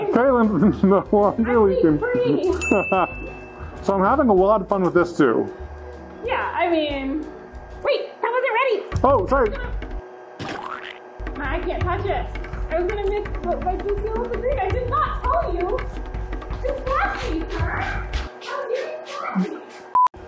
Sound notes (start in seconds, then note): 2.6 sound chimes; 2.6 laughs; 10.2 resin squishes; 17.4 shuffles away